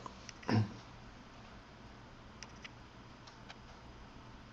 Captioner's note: Eckhart coughs softly